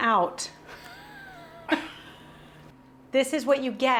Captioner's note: laughs